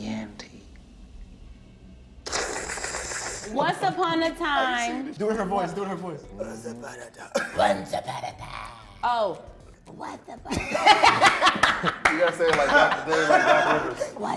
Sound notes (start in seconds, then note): 2.1 hissing; 12.4 cast laughing